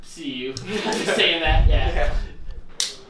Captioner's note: everyone laughs